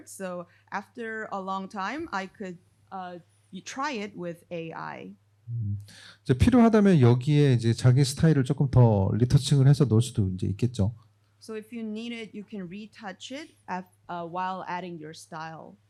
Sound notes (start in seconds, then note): 6.4 speaking korean